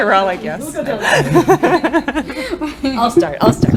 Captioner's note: laughter